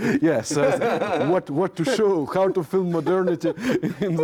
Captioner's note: laughs